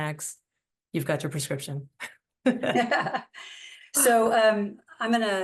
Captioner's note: laughter